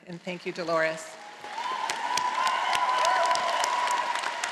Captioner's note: all applauding